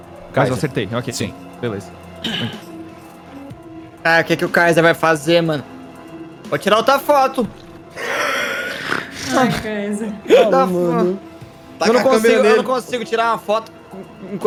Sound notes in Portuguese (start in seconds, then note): 7.9 Risos